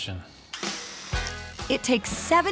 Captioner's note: drilling